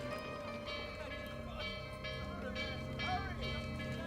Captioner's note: somber music; bell clanging